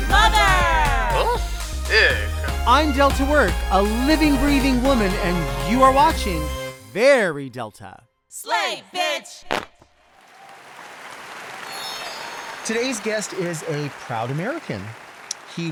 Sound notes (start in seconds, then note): 10.1 audience applauding; 10.1 audience cheering